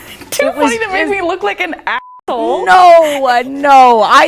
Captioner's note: beep